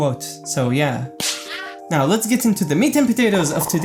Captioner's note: smack